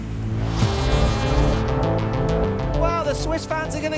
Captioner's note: air horn